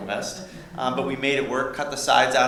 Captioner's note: laughter